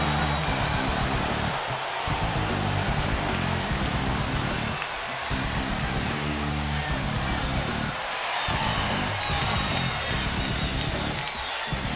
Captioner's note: crowd cheering; crowd chatter